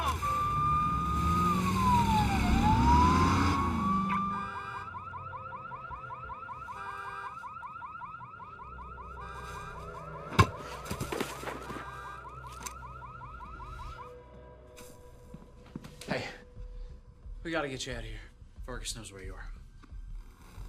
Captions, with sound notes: [police sirens wailing] [car alarm beeping] Hey. We gotta get you outta here. Vargas knows where you are.